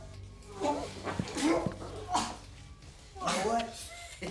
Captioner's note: Don gags and pants